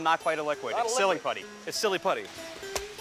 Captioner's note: laughs